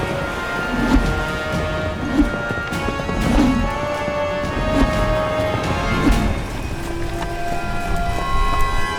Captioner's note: rope whips